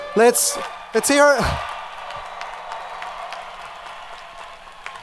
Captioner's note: audience cheering